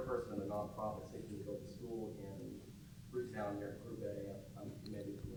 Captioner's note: murmurs